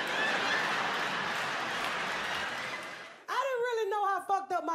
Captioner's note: crowd laughing